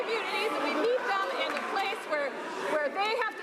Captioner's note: some Applause